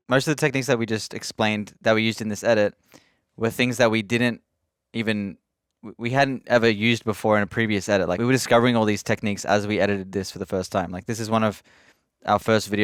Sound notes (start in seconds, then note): none